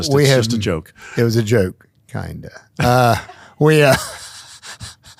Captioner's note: chuckles